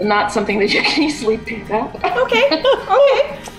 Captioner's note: laughs